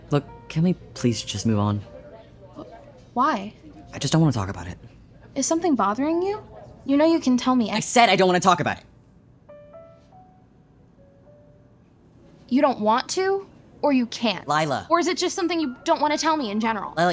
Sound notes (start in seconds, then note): 7.9 shouting